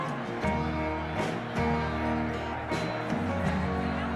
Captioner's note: crowd grumbling